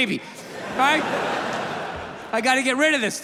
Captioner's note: audience laughs